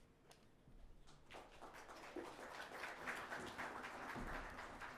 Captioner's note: audience applauds